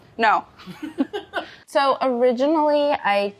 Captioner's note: both laugh